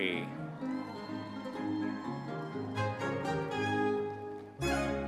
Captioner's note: audience members cheering